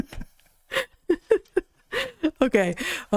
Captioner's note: laughs